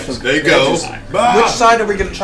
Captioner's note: yells